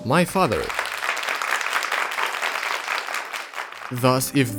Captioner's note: people clapping